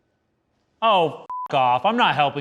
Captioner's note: beep